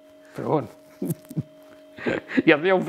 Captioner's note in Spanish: risas